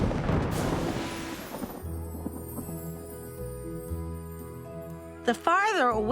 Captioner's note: thunder rumbling